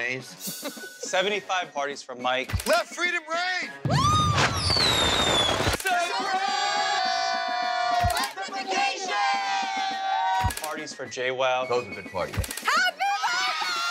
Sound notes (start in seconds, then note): 3.9 fireworks explode